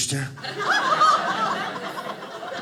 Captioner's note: audience laughing